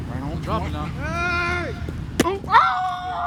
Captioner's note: player screaming